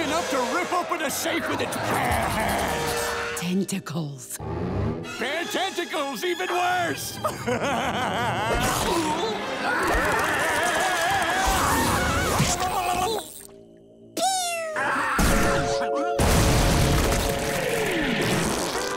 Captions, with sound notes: to rip open a safe with its hands. Tentacles. Bare tentacles, even worse! [laughing] [screaming] Pew.